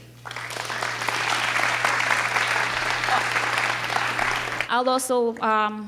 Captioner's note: audience clapping